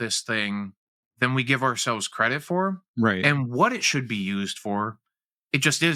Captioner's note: none